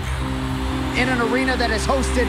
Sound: crowd cheering

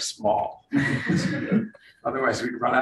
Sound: room laughs

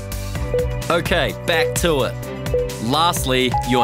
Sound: timer beeping

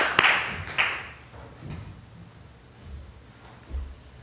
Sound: applause

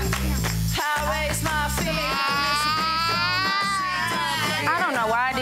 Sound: rock music; wailing

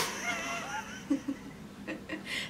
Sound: laughs

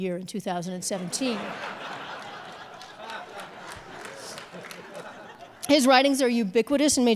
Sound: audience laughs and applauds

